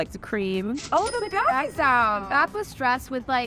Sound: cash register ringing

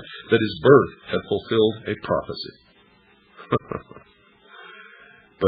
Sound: laughter

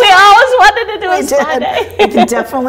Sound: laughs

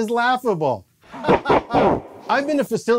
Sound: evil laugh

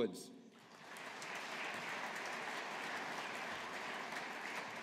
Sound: audience applauding

